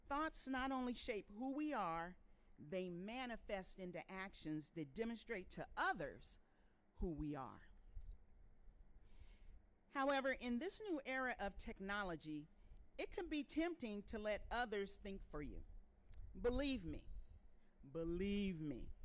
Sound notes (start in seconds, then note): none